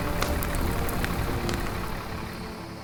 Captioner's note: fire raging; gentle music